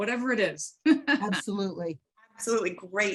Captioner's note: laughs